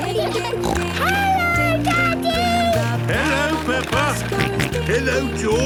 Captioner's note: snorting; George snorting